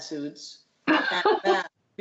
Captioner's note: laughter